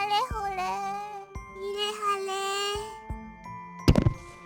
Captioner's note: weary groan